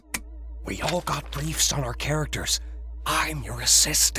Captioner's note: whispering